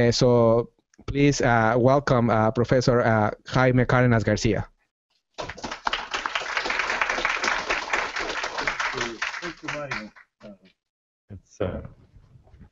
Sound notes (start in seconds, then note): 5.4 applause